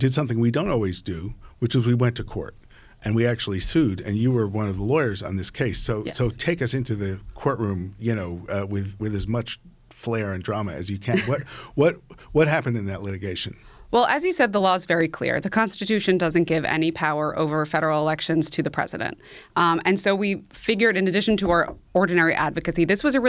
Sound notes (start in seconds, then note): 11.1 chuckling